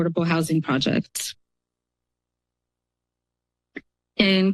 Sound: pause

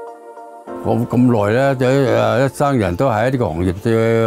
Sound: soft music; foreign language

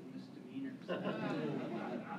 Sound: laughter

